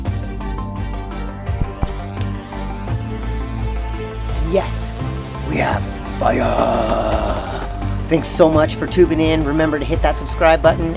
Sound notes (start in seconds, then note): 4.5 gorilla Voice